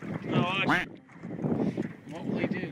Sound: quack sound

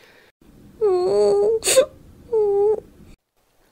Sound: Tails crying

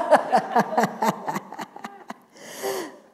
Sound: laughter

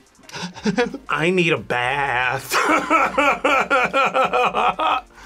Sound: laughs

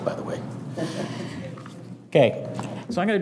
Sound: audience chuckling

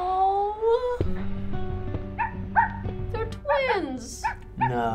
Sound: dog barks

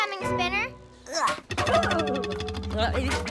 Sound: grunts with effort

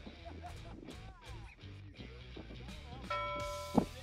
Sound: laughter; bell clangs

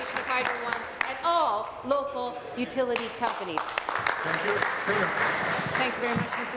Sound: applause

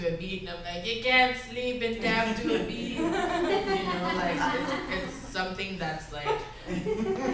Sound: giggling

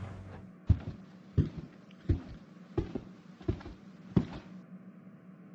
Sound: sliding door closes; footsteps on carpet

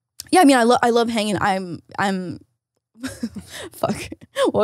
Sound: chuckles

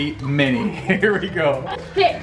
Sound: laughs

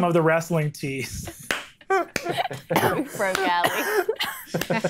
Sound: players laughing

